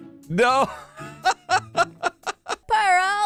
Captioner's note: laughs